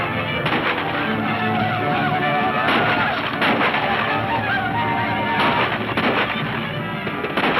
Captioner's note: men shouting; guns firing